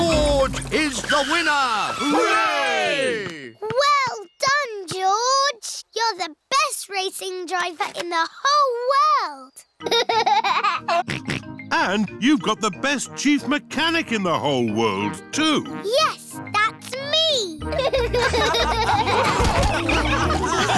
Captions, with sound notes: George is the winner! Hooray! Well done, George! You're the best racing driver in the whole world. (LAUGHS AND SNORTS) And you've got the best Chief Mechanic in the whole world, too. -Yes. That's me! -(ALL LAUGHING)